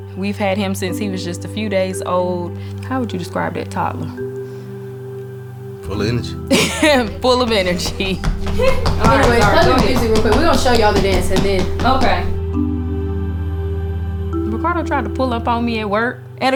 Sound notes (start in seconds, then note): 6.4 laughs; 8.7 feet stomping